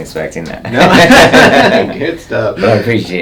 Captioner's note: both laughing